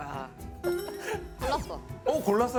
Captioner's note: thonking